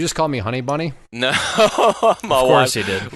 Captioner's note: laughing